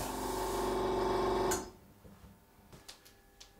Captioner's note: the whirring of the compressor stops